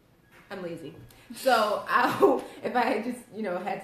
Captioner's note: laughter